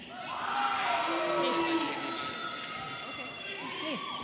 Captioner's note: audience cheering